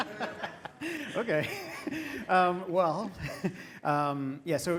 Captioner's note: laugh